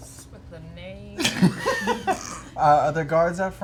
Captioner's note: laughter